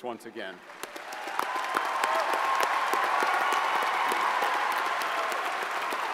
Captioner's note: audience cheers and applauds